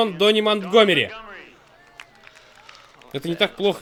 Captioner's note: scattered applause